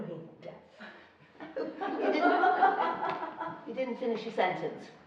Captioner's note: laughing